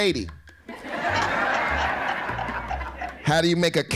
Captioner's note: laughing